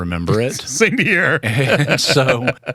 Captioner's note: laughter